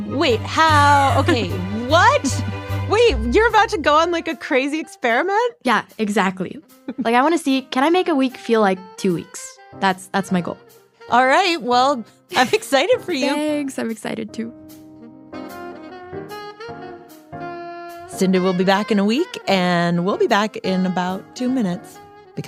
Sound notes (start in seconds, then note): 13.5 laughs